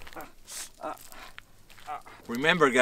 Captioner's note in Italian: Lamentele di dolore